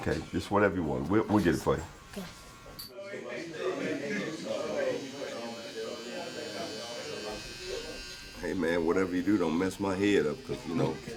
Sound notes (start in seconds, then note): 3.9 background chatter; 6.0 razor buzzing